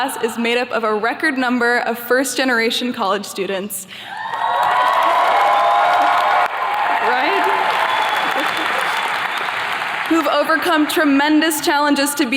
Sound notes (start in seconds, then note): 4.1 attendees cheers and claps; 8.1 attendees clapping